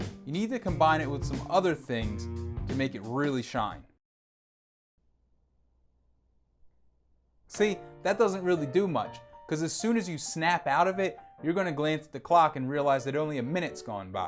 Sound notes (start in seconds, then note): 5.0 silence